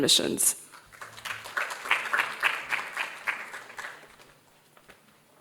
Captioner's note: audience applauding